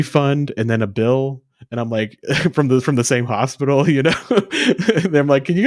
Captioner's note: laughs